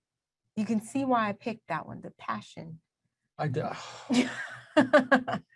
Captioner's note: laughs